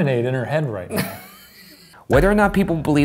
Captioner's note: laughter